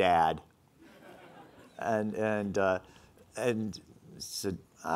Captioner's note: laughing